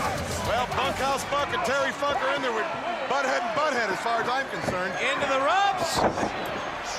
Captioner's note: crowd chatter